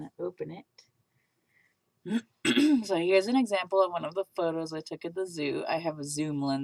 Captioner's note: clears throat